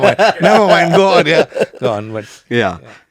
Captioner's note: laughs